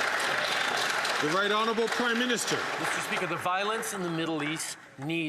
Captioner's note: some Applause